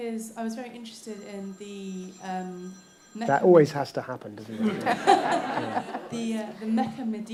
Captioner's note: phone ringing